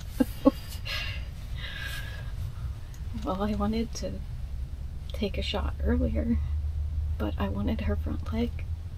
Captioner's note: laughter